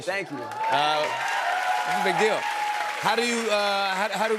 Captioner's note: cheers and applause